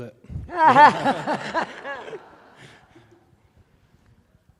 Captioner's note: laughing